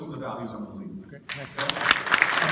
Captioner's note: clapping